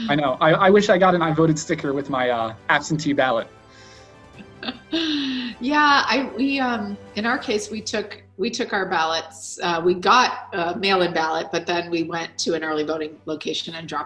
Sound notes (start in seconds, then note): 4.4 chuckles